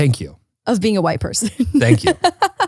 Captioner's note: laughs